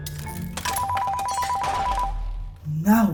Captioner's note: incoming call